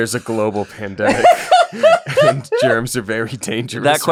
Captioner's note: laughter